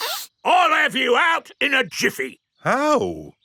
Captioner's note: sniffs